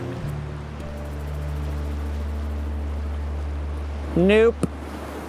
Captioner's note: water rushing